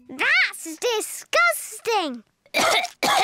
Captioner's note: coughs